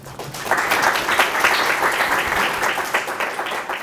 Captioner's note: applause